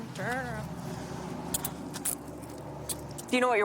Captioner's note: handcuffs clicking